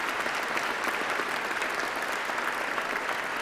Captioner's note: applause